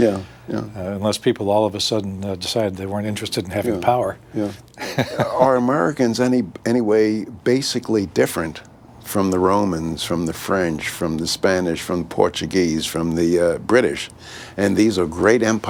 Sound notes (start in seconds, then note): 4.7 laughs